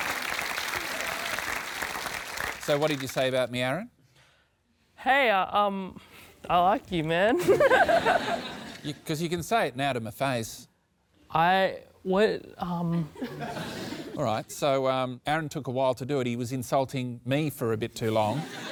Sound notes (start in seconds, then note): 7.4 laughter